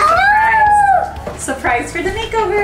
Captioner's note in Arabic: ينادي